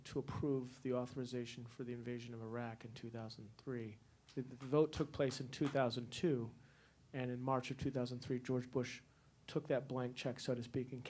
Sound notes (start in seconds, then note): 5.6 one person clapping